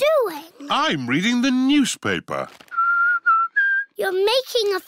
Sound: whistles

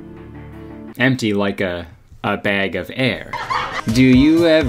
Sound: audience laughing

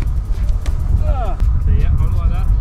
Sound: grunts

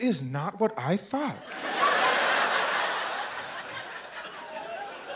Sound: laughter

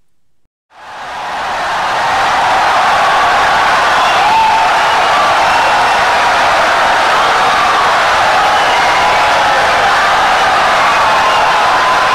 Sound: wild applause and cheering for 17 seconds

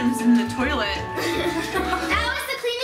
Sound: laughing

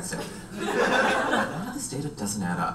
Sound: audience laughs

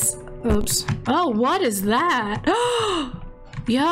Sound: gasp

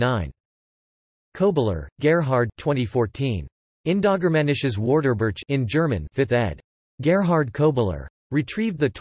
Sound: in German

